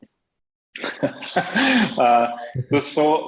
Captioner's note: both laughing